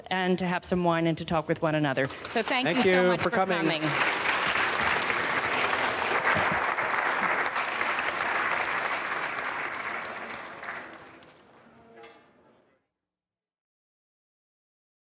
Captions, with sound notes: and to have some wine and to talk with one another. (audience applauding) - So thank you so much-- - Thank you for coming. - For coming. (audience applauding)